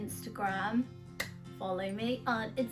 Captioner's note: claps hands